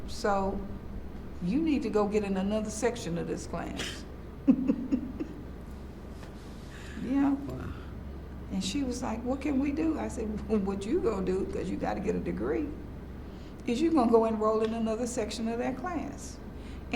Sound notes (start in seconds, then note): 4.4 laughs